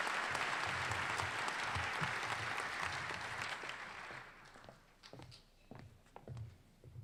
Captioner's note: applause